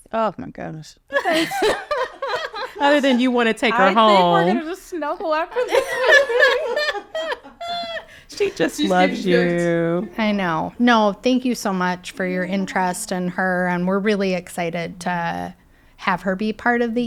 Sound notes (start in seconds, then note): 1.2 people laughing